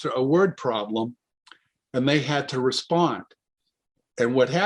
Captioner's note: none